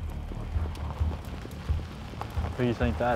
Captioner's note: car pullin up